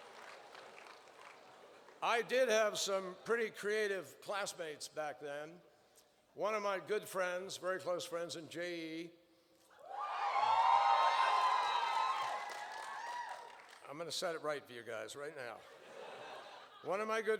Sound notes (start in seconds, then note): 9.8 cheers; 15.6 laughter